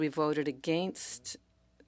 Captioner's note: speaking French